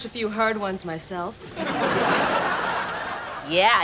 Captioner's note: laughs